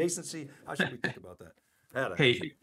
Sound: laughing

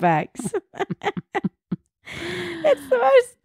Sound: laughs loudly

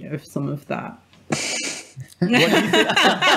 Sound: everyone laughs

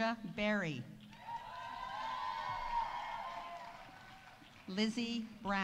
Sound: audience cheering; audience applauding

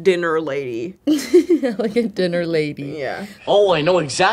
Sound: laughs

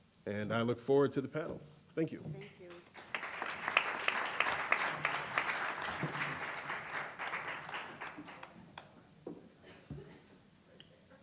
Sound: applause

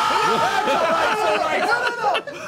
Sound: screams; all laugh

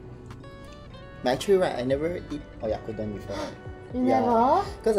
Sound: gasps

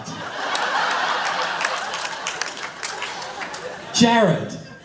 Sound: laughter

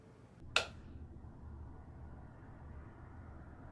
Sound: switch clicking

